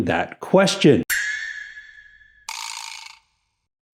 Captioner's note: ding